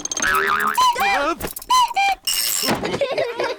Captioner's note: clock cuckoos; all laugh